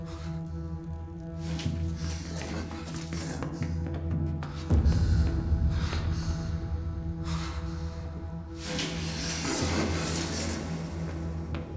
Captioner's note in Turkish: Nefes Sesleri; Adım ve Nefes Sesleri